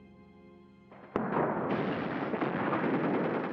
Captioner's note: explosions; rapid gunfire and explosions